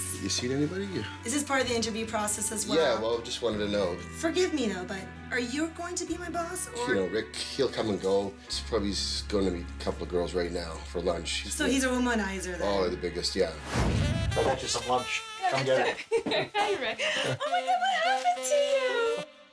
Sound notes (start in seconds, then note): 15.4 laughing